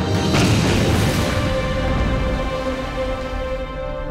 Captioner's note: explosion booming